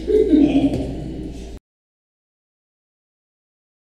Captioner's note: panelists chuckle